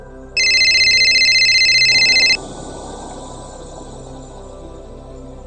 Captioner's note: cellular phone ringing